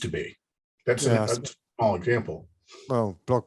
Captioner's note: murmurs